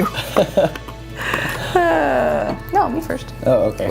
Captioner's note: laughs